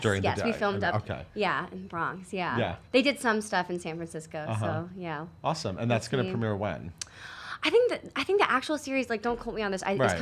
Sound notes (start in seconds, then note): none